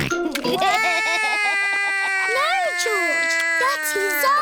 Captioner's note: george laughs; cries